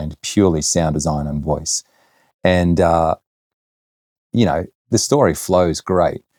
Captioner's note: none